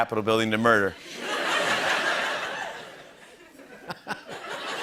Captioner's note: laughter